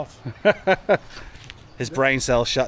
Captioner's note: laughing